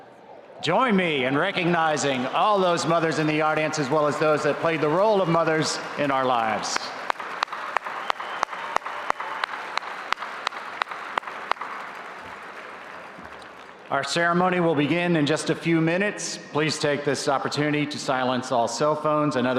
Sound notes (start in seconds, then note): 7.4 audience applauding